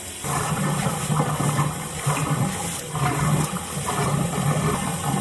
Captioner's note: water running